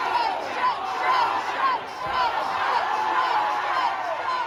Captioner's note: crowd cheering “croaker” and “strange”